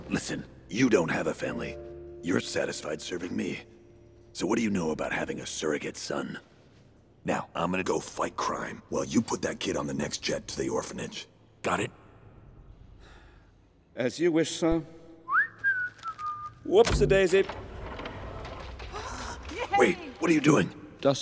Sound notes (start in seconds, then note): 13.0 sigh; 15.2 whistling